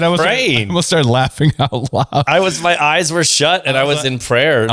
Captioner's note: laughs